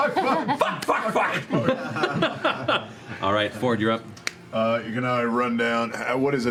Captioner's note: laughing